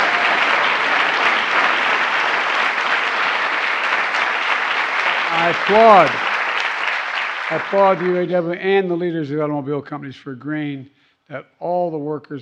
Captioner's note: applause